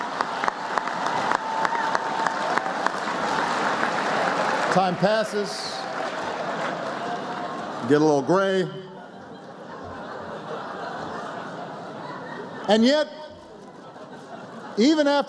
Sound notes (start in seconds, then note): 6.2 laughter; 10.1 applause